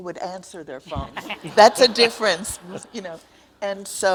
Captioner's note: audience laughs